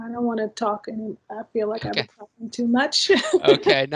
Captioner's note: chuckles